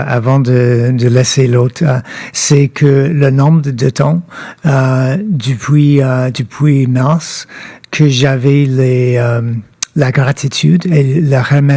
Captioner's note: speaking French